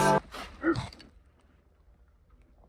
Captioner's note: little gasp